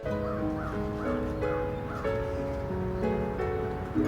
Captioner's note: bird cawing; soft piano music